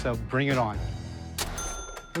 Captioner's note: cash register dings